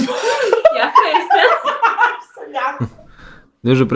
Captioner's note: the blonde giggles